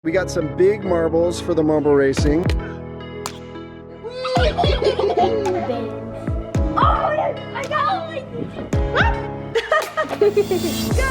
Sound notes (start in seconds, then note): 4.1 children giggling